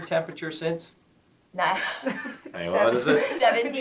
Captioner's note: laughter